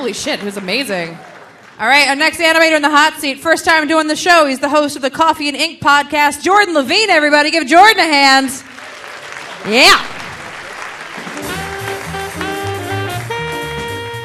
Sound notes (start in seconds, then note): 8.6 audience applauding; 11.2 delightful music